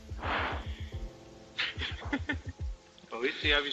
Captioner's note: laughter